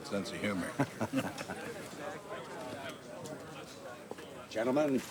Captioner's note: both chuckling